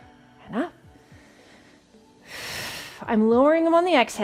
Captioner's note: continues breathing deeply